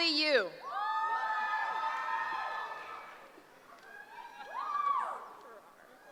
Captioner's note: cheering